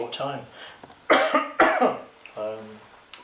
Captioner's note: coughs